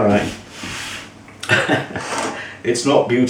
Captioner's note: laughs